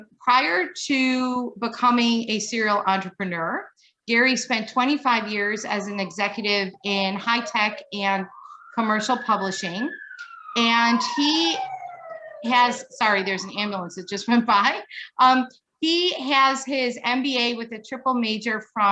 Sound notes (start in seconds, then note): 11.7 siren wailing